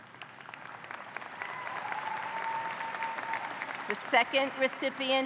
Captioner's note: applause; cheers and applause; applause